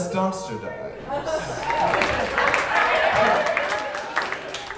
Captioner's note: audience cheering